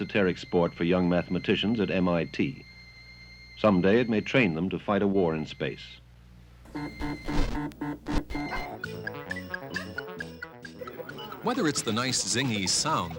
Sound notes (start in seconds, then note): 8.9 digital beeping; 10.6 electronic piano